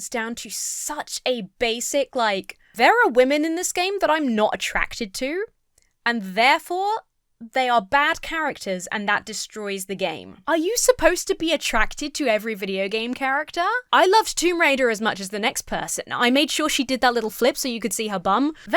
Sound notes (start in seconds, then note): none